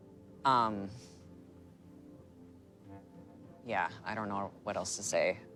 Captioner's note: sighs